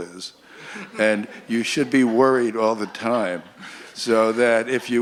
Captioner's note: laughter